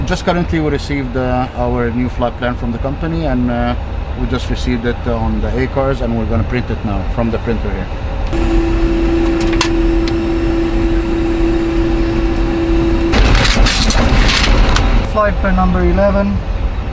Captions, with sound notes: Just currently we received our new flight plan from the company, and we just received it on the ACARS, and we're going to print it now from the printer here. (loud printer sound) (paper ripping) - Flight for number 11